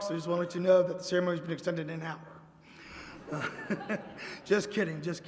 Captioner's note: laughter